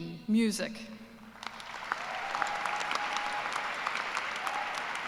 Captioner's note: cheers and applause